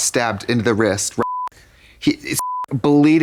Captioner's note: beep